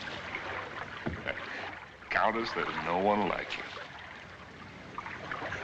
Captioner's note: chuckles